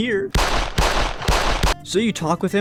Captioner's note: gunshots